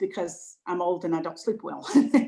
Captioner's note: laughs